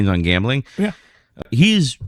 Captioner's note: uh